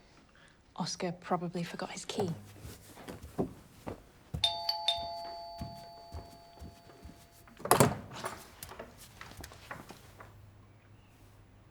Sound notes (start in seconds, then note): 4.3 doorbell ringing